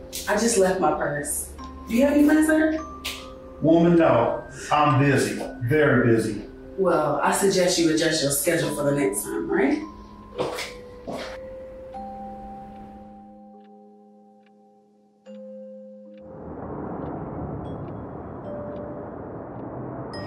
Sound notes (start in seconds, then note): 11.0 footsteps; 16.8 mysterious music